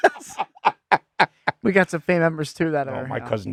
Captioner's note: laughing